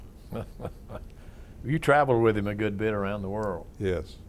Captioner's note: laughter